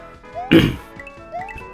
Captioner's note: clears throat